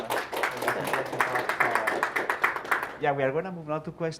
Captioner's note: applause